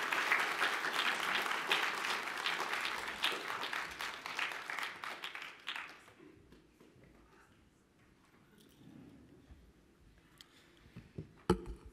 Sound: applause

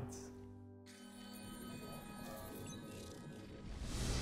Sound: electronic whooshing

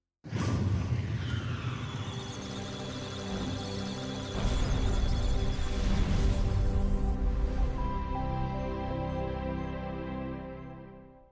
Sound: musical Tones; electronic Sounds of Data

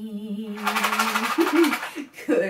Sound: shakes rattle

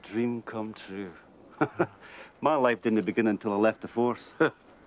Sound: chuckles; chuckling

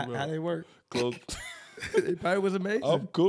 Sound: laughs

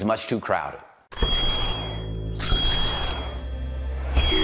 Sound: dramatic sounds

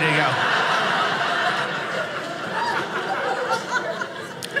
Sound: audience laughing

